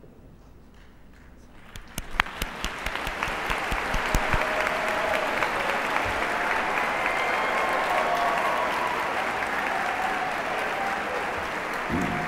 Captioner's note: applause